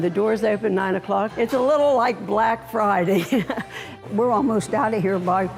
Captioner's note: chuckles